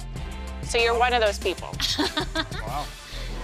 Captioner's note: laughs